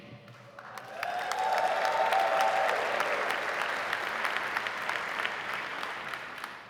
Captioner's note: audience applauding; audience cheering